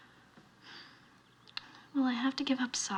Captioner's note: sighs